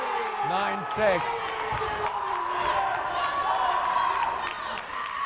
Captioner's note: crowd cheering